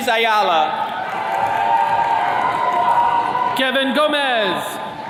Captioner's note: attendees cheering